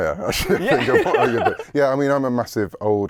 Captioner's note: laughs